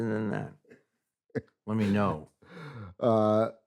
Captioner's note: chuckles